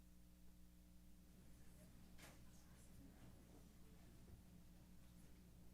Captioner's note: chatter